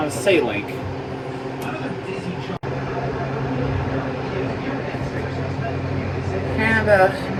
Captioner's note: "21Alive News at 5" plays in background